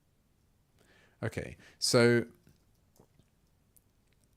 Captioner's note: silence; silence